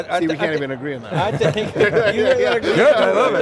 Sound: men laugh

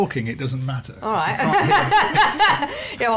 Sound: laughs

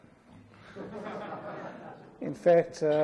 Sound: laughter

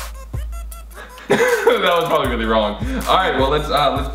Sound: laughs

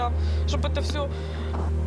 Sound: speaking Foreign Language

